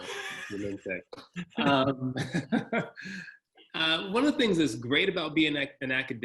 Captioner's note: laugh